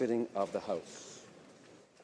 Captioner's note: speaking French